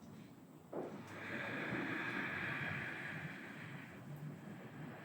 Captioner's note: Annie inhaling